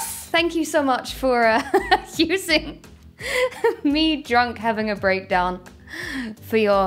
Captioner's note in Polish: śmiech